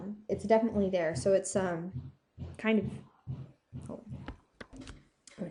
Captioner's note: toddler thumping